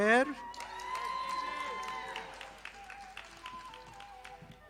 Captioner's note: audience applauding